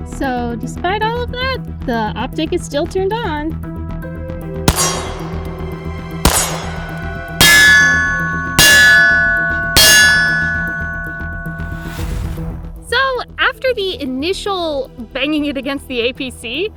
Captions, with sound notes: So despite all of that, the optic is still turned on. (gunshots) (target rings) So after the initial banging it against the APC,